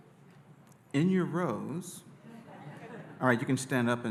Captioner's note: audience laughing